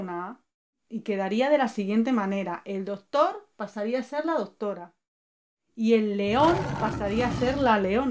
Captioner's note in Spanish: rugido